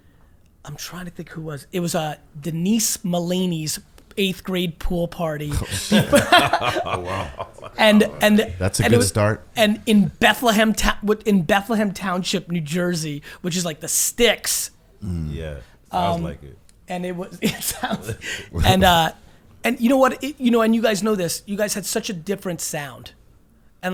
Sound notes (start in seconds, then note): 5.5 laughs